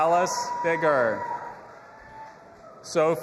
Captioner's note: audience applauding and cheering